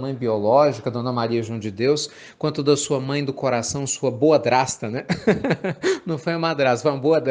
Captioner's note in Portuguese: risos